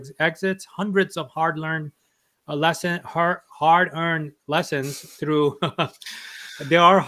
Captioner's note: chuckles